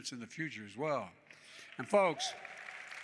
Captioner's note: applause